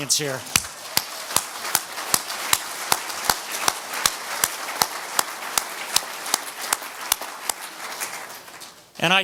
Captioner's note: applauds